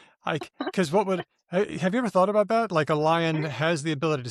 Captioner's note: laughter